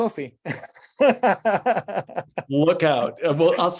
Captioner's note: laughing